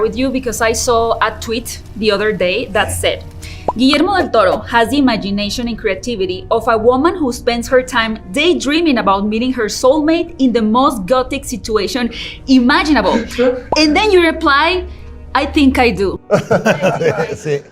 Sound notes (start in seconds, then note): 13.1 laughs; 16.3 everyone laughs